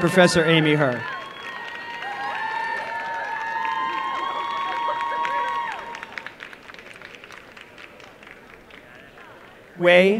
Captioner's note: applause and cheering